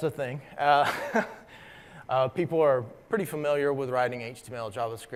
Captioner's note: laugh